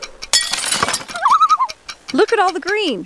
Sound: loon call

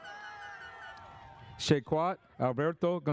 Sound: audience cheers; airhorn sounds

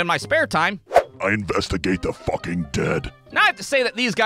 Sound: much deeper voice

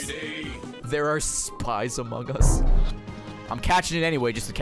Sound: Among Us horn sound

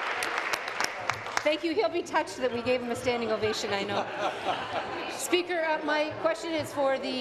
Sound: applause

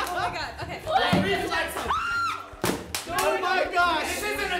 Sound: cracking up; squealing

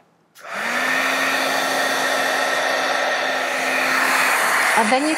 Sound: heat tool whirring

